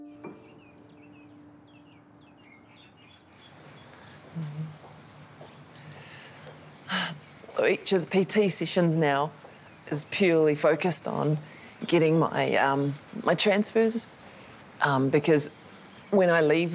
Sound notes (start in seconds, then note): 1.6 birdsong; 7.2 huffs